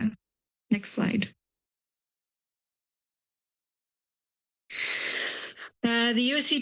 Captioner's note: pause